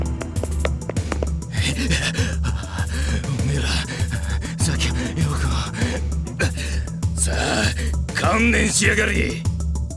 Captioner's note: pant; huff